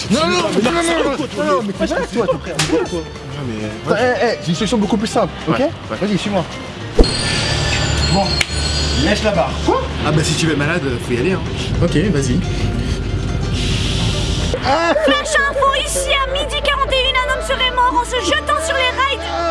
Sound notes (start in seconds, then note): 2.4 slap; 6.9 noise of subway